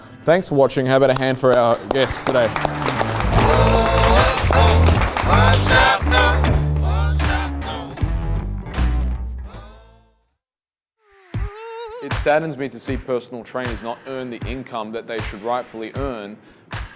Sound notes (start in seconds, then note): 1.1 audience clapping; 3.5 bright music